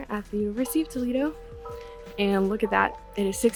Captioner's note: bell Rings